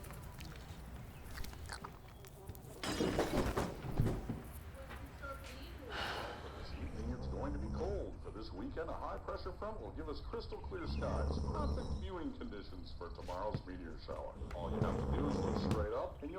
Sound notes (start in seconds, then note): 2.8 glass shattering; 2.9 body thumping; 5.8 bucky sighs